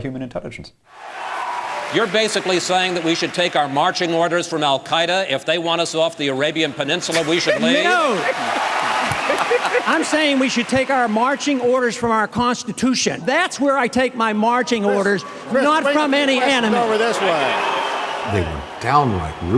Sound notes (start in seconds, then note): 5.3 laughs, snickers; 6.3 audience cheers, candidates laugh; 16.2 mixed cheers & boos